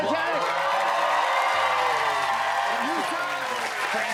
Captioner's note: cheers and applause